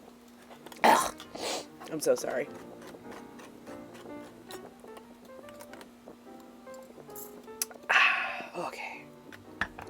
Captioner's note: sniffs, hacks and coughs